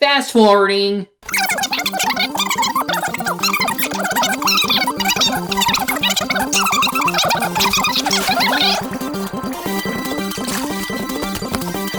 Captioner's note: sound of movie footage speeding up